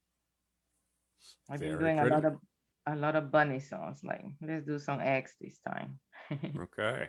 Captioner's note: chuckles